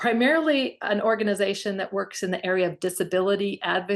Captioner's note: none